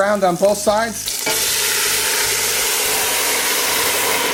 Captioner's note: sizzling